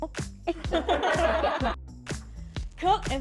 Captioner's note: laughter